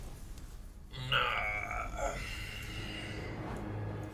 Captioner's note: groans